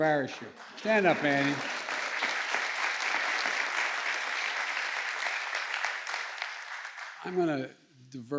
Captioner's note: applause